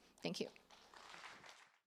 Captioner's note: applause